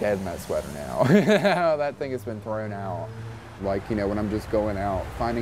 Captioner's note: laughs